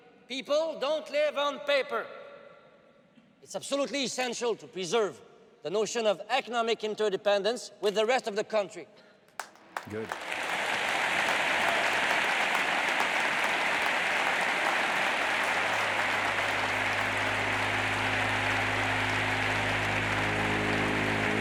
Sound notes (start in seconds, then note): 11.0 audience cheers and applauds; 15.5 tense brooding music